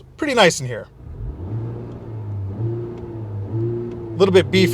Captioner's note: revs engine